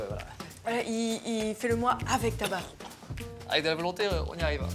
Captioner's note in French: Tousse